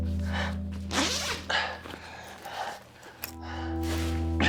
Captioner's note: Rico unzipping his hoodie; tense music